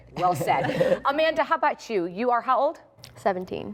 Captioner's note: laughter